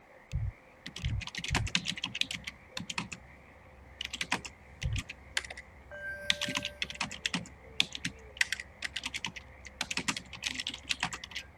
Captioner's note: typing sounds